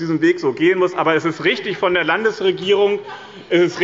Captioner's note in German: Lachen und Zuruf